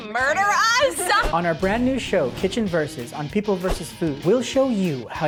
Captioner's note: voice-over